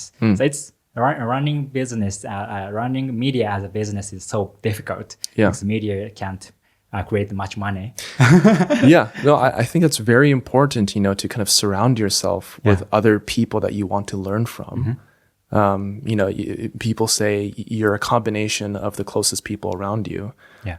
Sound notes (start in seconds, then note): 8.1 laughs